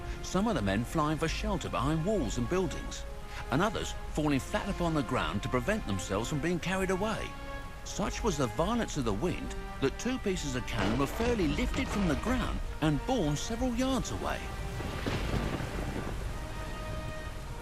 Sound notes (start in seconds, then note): 10.7 inaudible thunder